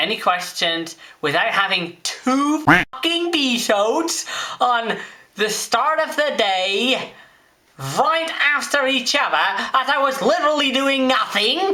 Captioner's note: quack